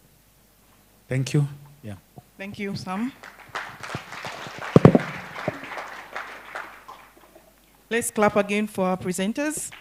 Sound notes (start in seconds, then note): 2.9 applause